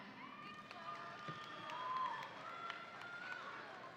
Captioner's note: audience applauding